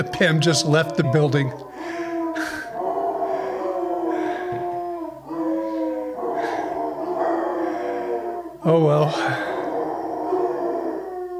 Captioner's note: howling bassets; howling bassets